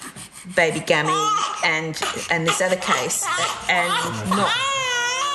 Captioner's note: baby crying